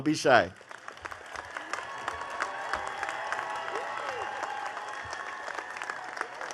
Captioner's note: attendees cheering and clapping